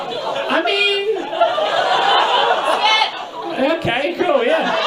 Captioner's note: audience laughs; audience continues laughing